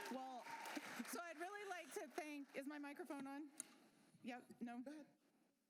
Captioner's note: applause